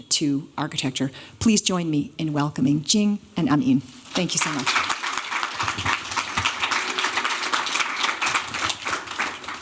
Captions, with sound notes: to architecture. Please join me in welcoming Jing and Amin. Thank you so much. [APPLAUSE]